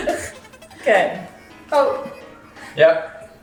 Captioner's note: laughing